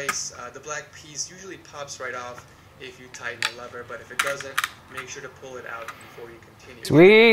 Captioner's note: instructional Audio Playing; piece "pops" off